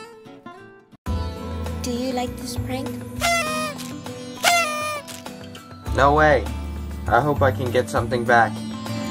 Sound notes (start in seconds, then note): 3.2 party horn